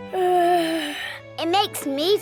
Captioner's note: yawns